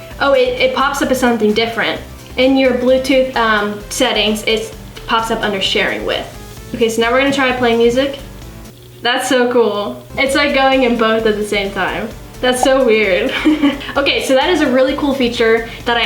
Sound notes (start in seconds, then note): 13.1 laughs